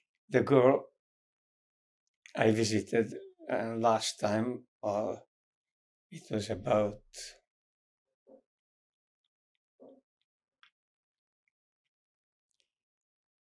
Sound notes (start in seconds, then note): 7.5 pauses 6 seconds